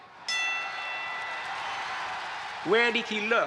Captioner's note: audience cheering; bell dings